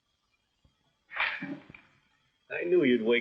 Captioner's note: sighing